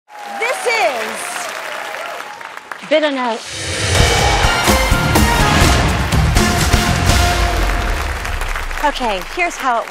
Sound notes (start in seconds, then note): 0.7 cheers and applause; 7.3 scattered applause